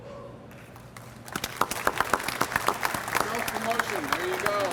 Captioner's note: audience applauds